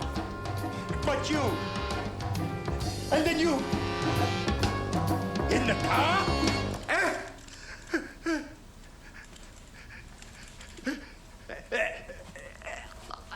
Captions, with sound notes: But you! And then you! In the car! [ Exclaims ]